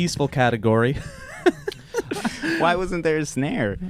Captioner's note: laughing